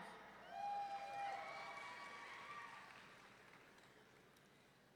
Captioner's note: audience cheering